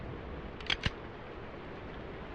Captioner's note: gunshot; gun cocks